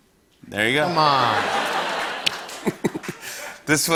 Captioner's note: laughter